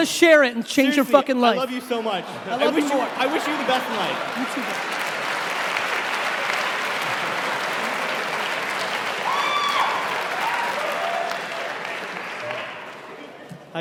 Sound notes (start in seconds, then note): 6.1 cheering